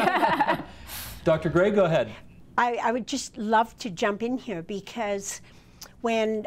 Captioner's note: laughter